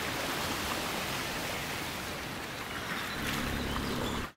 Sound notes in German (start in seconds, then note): 2.6 Vögel zwitschern